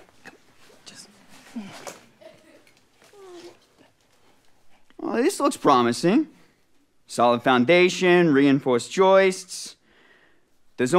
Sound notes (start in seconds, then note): 3.1 soft moaning